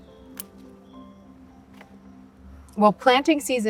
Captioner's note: scissor snips